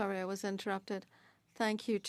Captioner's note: speaking French